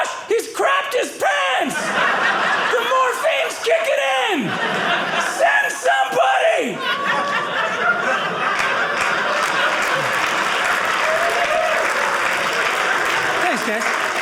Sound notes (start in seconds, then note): 9.1 audience applauding